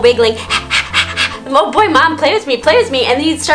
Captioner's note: panting